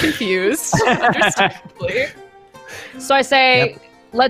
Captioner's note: chuckles